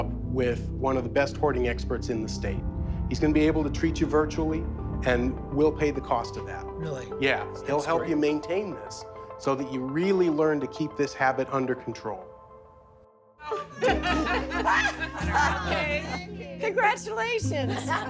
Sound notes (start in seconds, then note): 13.4 shouts and laughs